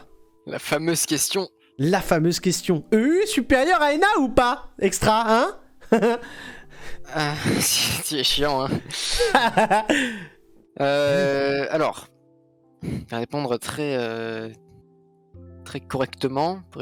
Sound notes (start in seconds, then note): 8.6 laugh